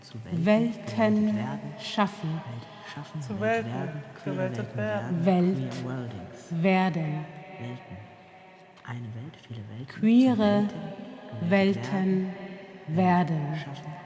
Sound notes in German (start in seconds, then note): 7.7 vor sich hin murmelnd